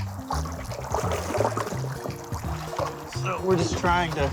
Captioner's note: sloshing